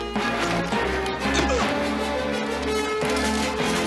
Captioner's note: grunts